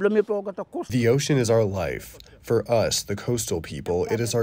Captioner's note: through translator